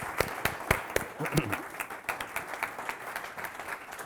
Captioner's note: audience applauding